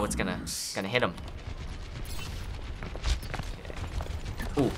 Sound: distant gunfire

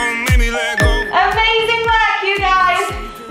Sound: upbeat music; timer beeping

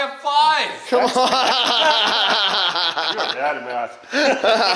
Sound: everyone laughs

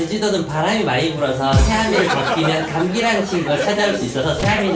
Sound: laughter

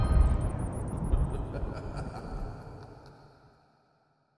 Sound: thunder rumbling; sinister laughter

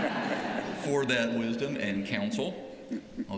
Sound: laughter

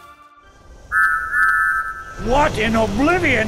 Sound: high pitched train horns

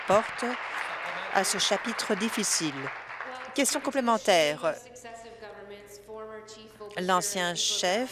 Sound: applause

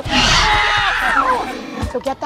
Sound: Blue roars

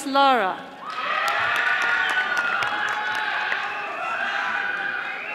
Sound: audience applauding

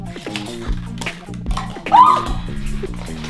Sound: cheering

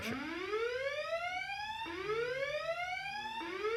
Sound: alarm ringing

